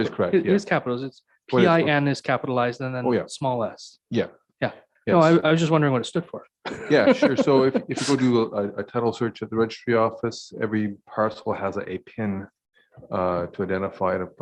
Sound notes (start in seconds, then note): 6.6 mayor laughing